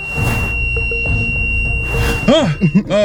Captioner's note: camera whooshes out; camera wooshes in; prolonged beeping; laughs